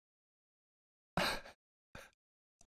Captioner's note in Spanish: ríe